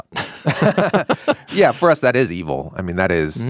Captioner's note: both laughing